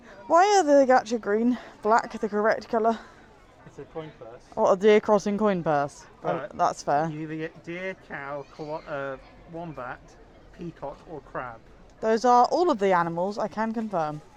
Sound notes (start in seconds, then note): none